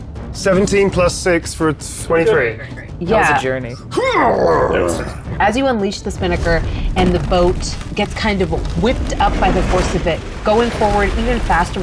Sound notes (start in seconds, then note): 3.7 grunting